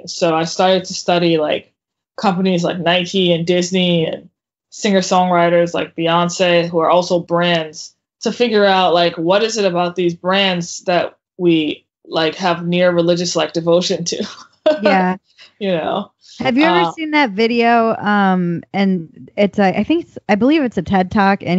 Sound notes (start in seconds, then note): 13.9 laughs